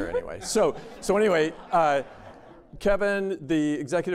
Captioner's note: laughter